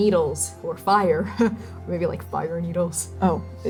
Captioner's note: nervous laughing